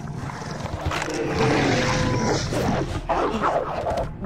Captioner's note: growling